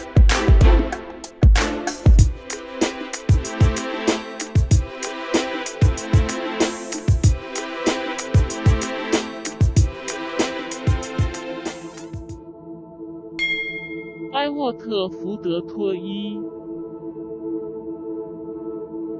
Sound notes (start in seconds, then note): 13.4 bell; 18.2 non-english speech